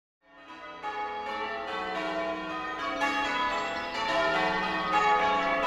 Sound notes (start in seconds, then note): 0.4 bells tolling